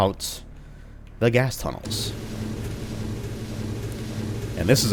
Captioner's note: elevator rumbling... very loudly, for some reason